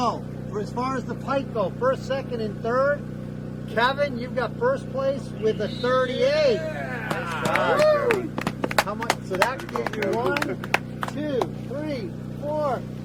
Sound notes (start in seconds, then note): 7.0 applause